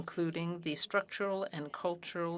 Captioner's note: speaking french